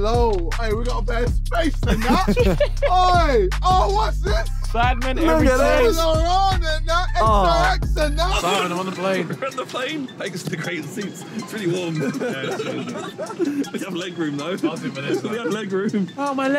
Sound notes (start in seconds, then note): 5.6 indistinct chattering; 10.6 laughing